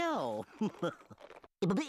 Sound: chuckling

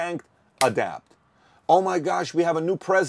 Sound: snap

